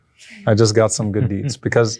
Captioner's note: people laugh